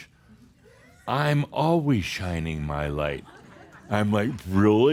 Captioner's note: some laughter